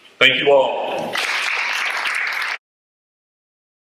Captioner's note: audience Applause